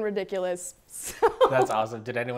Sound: laughs

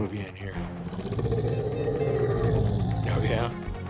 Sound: growling

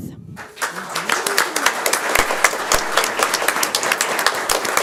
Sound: audience applauds

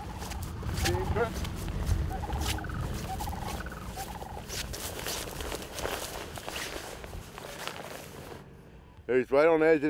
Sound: nature sounds

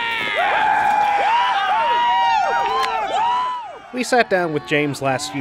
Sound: movie Excerpt: Cheering

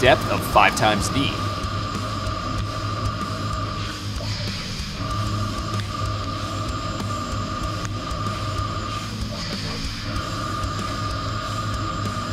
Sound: machining noises

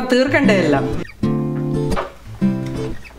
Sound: door opens

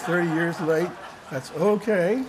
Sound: laughter

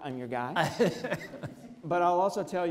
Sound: audience laughs

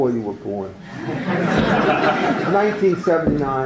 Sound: laughter

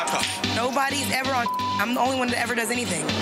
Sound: beep

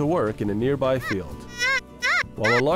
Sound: squeaking

